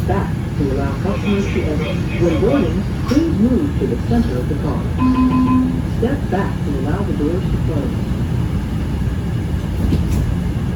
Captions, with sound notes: -to allow customers to exit, when boarding -Orange Line train to New Carrollton, Next Stop: Rosslyn. please move to the center of the car. [Chime] Step back to allow the doors to close.